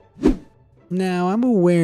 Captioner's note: image whooshing